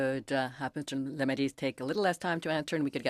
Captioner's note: speaking in French